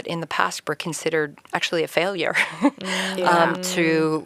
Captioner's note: chuckles